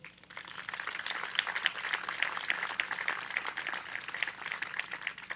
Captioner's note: applause